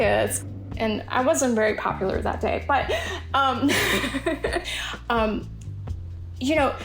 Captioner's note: laugh